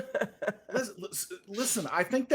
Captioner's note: laughing